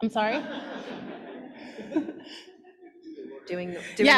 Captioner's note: laughter